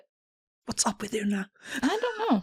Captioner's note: whispers